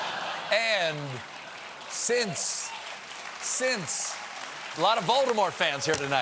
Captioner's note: applause